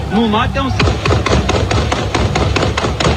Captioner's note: gunshots